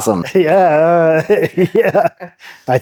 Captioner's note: laughing